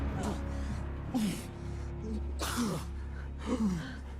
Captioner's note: Lucian panting